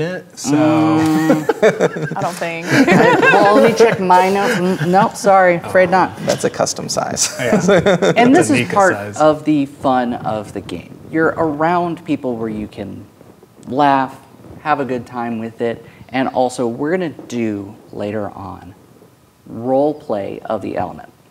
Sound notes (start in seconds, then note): 0.5 laughs; 0.5 players laughing; 5.6 players laughing; 7.2 laughing